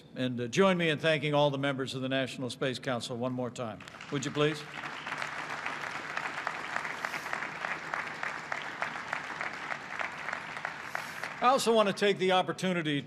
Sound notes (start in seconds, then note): 5.4 applause